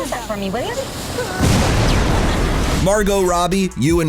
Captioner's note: explosion